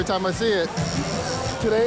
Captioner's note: tattoo needle buzzes